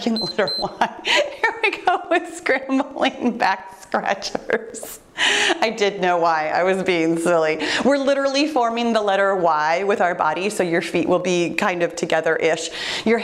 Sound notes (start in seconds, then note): 0.0 timer beeps; 0.1 laughs